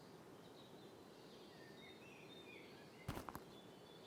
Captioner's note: birds chirping